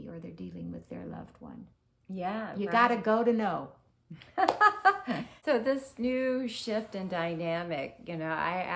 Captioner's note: laughter